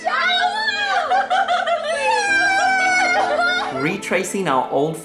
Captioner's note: laughing; screaming